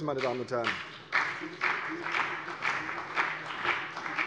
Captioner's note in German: Beifall CDU und BÜNDNIS 90/DIE GRÜNEN